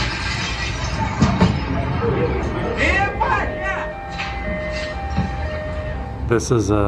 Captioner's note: glass crashing; sirens and shouting